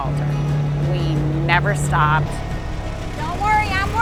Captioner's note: engine whirring